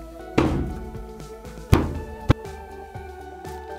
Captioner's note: fist thumping